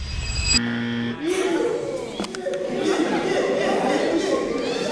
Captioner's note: crowd chattering